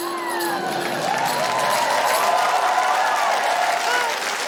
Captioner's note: cheering, applause